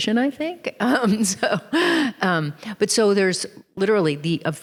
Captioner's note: chuckles